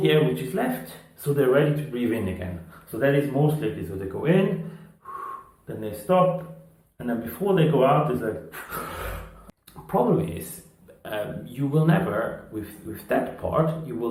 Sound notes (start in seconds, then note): 4.6 exhaling; 8.6 gasping